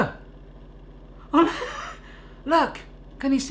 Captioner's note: laughing